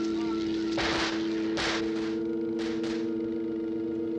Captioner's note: guns firing